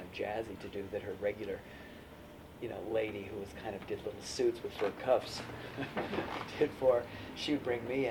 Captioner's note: laughs